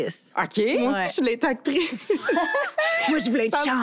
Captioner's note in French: rires